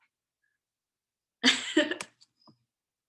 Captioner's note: laughs